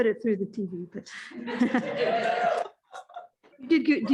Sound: laughter

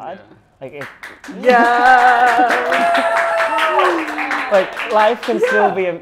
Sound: applause

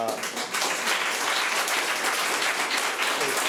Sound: applause

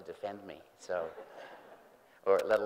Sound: group laughing

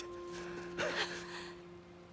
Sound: laugh

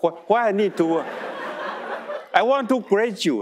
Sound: audience laughing

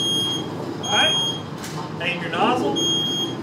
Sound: fire alarm beeping

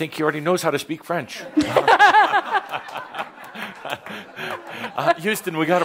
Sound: laughter

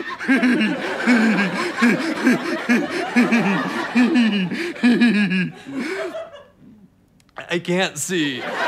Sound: maniacal laughter

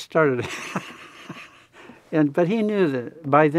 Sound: laughs

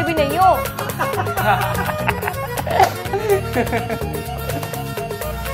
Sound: laughing

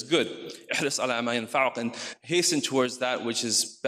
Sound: speaks in foreign language

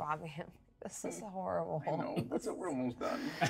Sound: chuckles; speaker chuckles

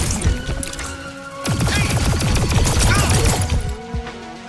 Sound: gun firing

